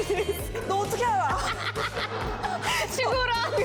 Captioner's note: hahahaha